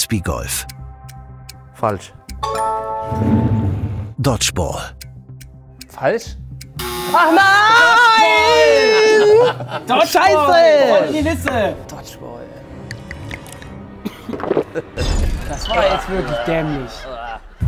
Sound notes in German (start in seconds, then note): 6.8 schreit; 7.7 Lachen; 13.0 Schluckgeräusche